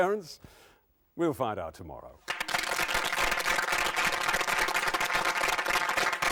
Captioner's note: audience applauding